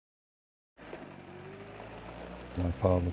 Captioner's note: car engine